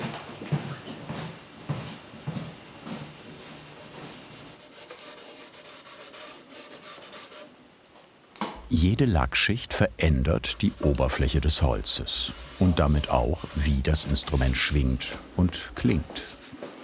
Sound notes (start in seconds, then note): 2.4 fine sanding